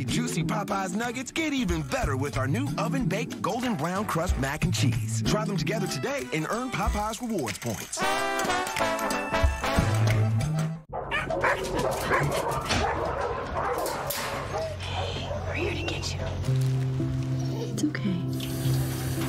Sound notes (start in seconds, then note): 17.4 whimpering